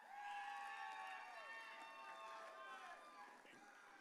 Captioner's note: audience cheering